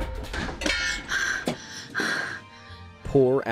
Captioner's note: breathing